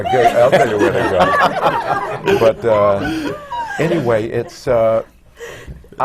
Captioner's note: laughter